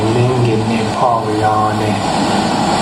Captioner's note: male voice speaking in Indigenous Myaamia language